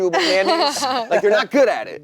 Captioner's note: laughing